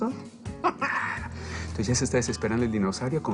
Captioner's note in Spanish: Ríe